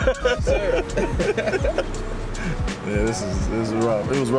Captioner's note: laughs